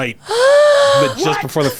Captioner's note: sighs